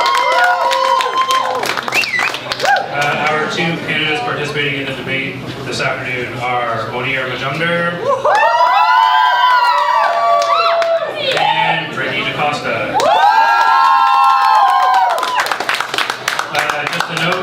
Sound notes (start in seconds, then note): 12.9 cheering from crowd